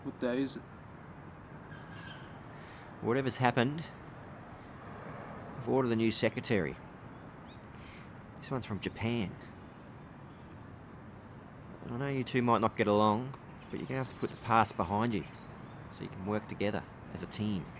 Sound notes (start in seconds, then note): none